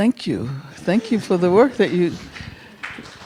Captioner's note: audience chuckling